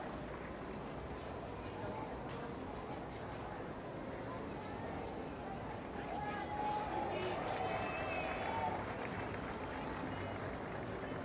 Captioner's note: applause